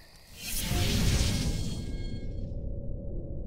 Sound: whooshing

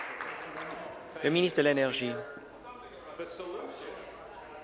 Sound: applause

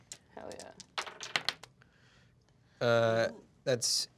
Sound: die clacks

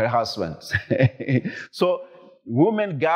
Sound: chuckles

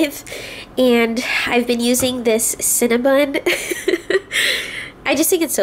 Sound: laughs

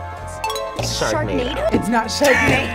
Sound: bell dings

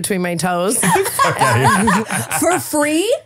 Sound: laughing

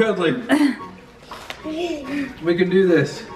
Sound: laughs

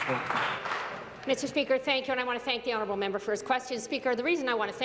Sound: applause

